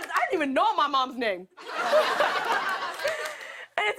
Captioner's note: laughter